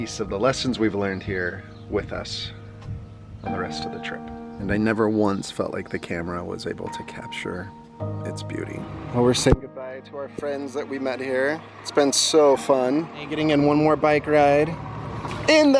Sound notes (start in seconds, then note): none